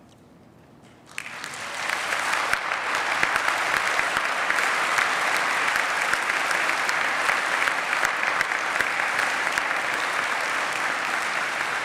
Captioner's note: applause